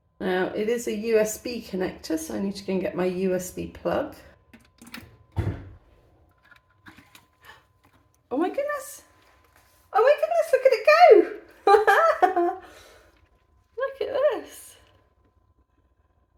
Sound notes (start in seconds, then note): 11.6 laughing